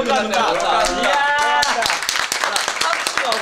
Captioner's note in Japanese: 拍手